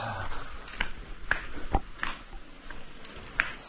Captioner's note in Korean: 한숨